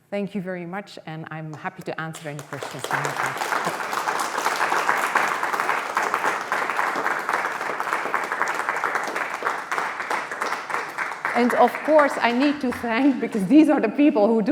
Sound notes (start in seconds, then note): 2.9 applause